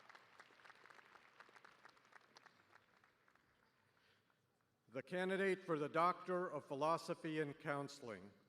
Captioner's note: cheers and applause